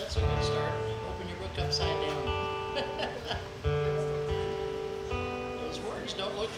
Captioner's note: laughs